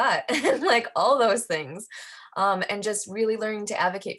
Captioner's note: giggles